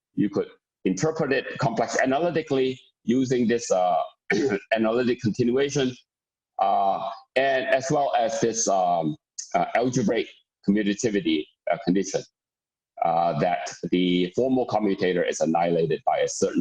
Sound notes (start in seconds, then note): 13.1 murmur